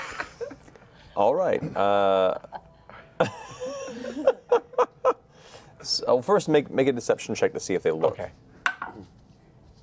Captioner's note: laughs